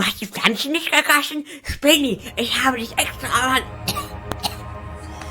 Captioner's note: cough